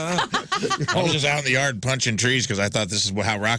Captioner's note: laughing